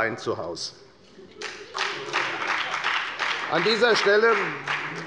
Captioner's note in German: Beifall bei der FDP und der SPD